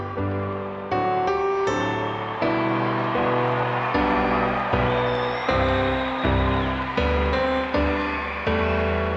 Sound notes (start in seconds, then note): 1.6 audience cheers